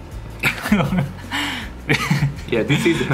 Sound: laughing

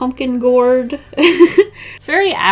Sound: laughs

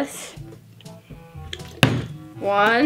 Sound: bottle landing

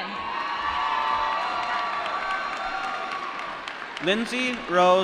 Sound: applause

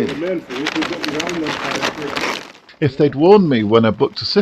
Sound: chatter

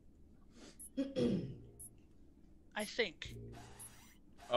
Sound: cough

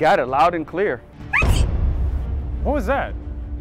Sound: woman sneezes

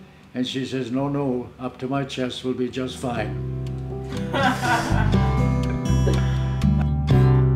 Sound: laughter

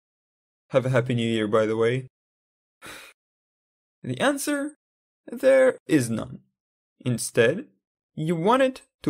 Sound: breathing out laughingly

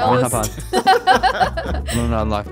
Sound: laughing amusingly

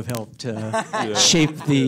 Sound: Edgar laughing

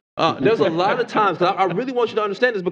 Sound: laughter

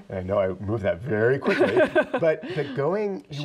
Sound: laughs

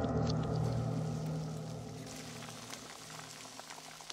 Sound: dramatic music; sizzling

